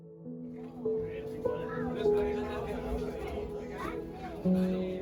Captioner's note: travelers talking